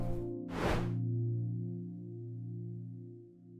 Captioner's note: air whooshing